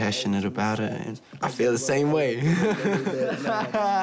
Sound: laughs

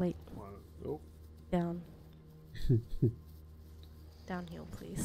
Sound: laughs

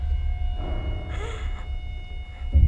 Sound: alex wheezing

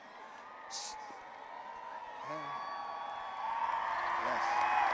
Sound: audience applauding and cheering

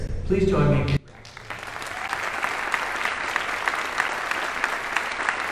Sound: audience applauding

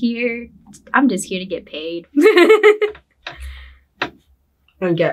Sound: laughs

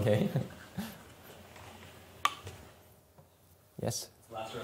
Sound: laughs

